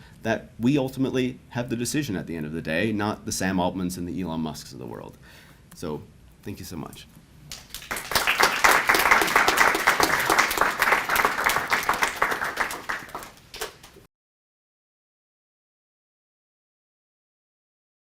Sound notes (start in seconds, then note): 7.5 audience applauds